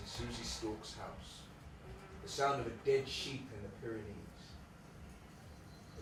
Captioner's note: birdsong starts